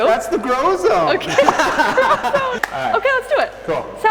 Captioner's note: laughs